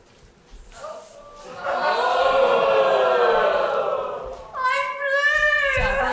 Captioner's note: audience ohhhh